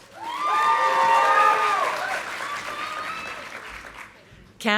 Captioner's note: audience applauding